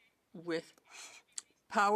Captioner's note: speaking French